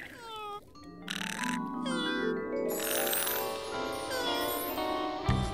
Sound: snoring

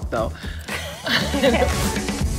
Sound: laughs

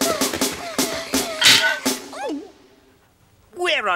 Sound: triplets gulp

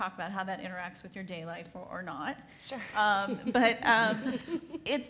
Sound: laughs

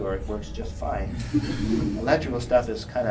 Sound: laugther

